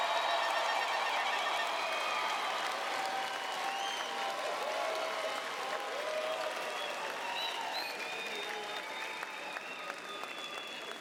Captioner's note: cheers and Applause